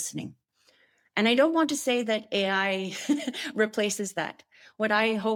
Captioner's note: chuckles